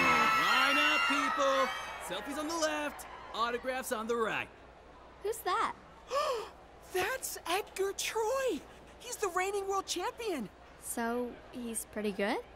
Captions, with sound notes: Line up, people. Selfies on the left. Autographs on the right. -Who's that? -[gasps] That's Edgar Troy! He's the reigning World Champion! So, he's pretty good?